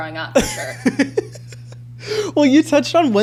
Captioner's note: laughs